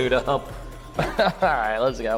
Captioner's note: chuckling